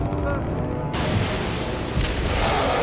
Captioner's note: lightning crashing; growling